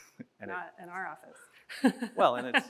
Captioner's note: chuckles